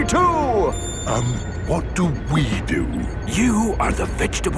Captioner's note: whispering